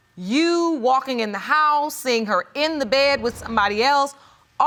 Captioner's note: none